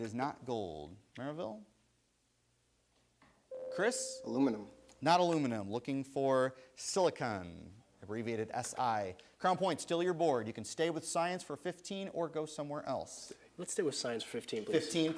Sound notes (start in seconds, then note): 3.5 buzzer sounds